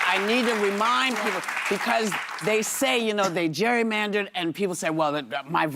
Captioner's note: applause